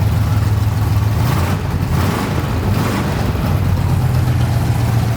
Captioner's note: engine revving